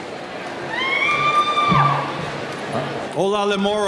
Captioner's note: cheering